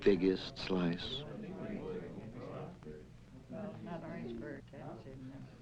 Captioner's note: people murmuring